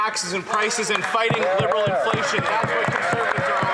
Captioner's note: some Applause